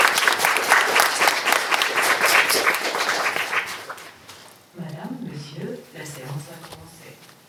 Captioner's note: applause